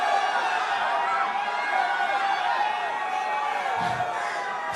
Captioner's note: crowd Cheering